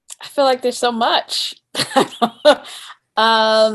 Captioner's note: laughs